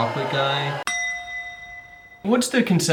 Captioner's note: loud bell dings